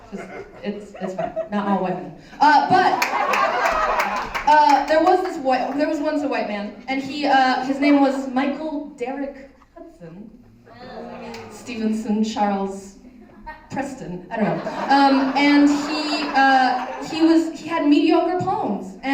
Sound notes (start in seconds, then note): 0.0 laughter; 3.0 applause